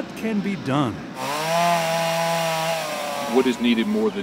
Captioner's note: chain saw